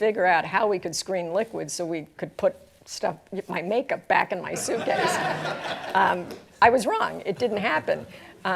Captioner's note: laughter